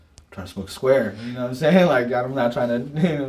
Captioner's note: laughs